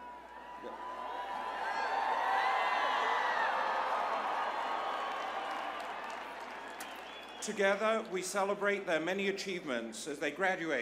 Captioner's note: applause